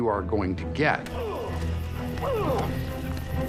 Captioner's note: men grunting